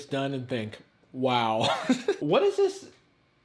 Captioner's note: laughing